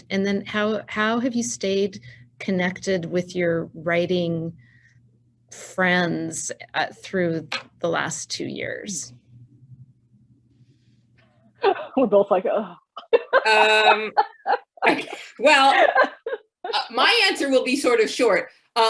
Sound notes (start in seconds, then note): 13.0 laughing